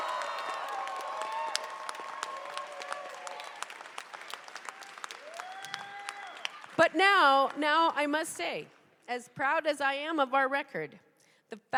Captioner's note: cheers and applause